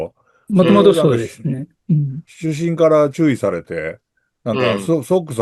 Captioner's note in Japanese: 咳払い